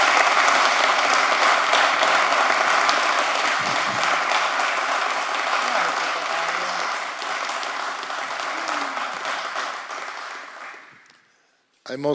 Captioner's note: applause